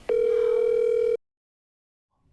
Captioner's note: phone ringing